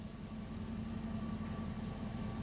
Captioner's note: car engine running